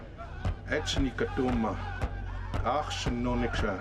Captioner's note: speaking indigenous language